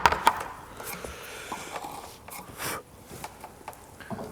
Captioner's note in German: Lautes Luftholen, Schnaufen